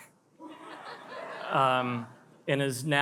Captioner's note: attendees laugh